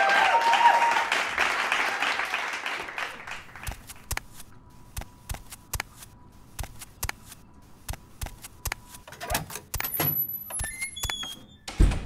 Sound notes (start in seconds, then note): 0.0 cheering and applauding; 2.1 footsteps; 9.0 door opening; 11.8 door closing